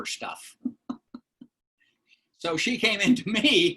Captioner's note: laughter